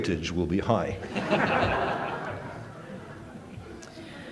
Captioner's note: laughter